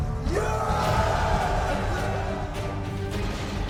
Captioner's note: group cheers; lasers blasting